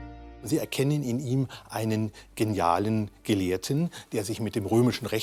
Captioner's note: speaking in foreign language